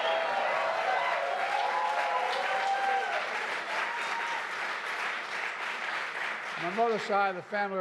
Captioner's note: applause